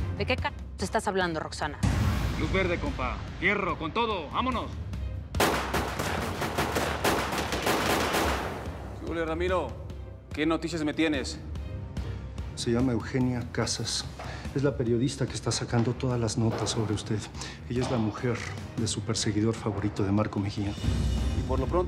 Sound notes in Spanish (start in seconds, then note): 5.3 Disparos